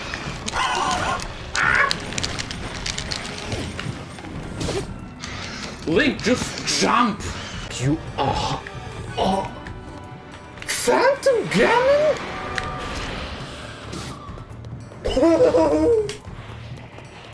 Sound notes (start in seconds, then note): 0.0 wheezing; 0.1 Angry Birds Sounds